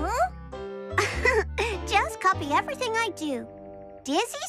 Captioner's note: giggles